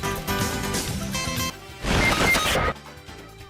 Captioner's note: fortnite death sound